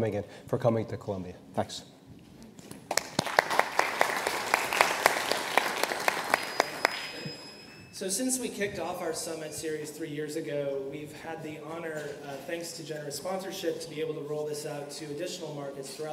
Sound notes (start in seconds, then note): 2.8 audience applauds